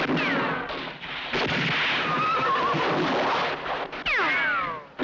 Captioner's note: horse whinnies